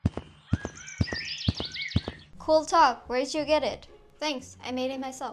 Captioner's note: walking noise